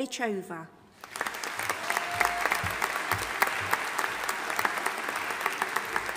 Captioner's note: audience applauding and cheering